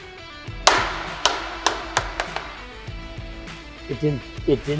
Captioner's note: ball bangs on deck